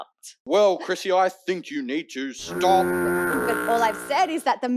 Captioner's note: honking